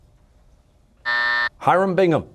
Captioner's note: buzzer